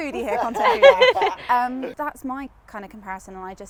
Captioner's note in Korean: 웃음